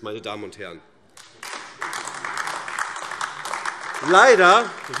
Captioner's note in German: Beifall AfD